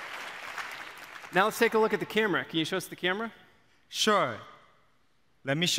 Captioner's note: applause